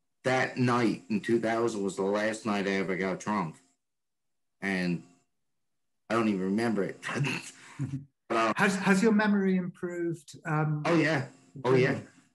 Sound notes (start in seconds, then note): 6.7 laughs